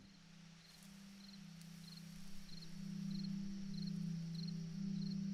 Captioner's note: insects chirping